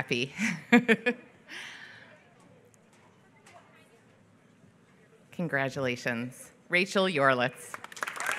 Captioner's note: laughs; applause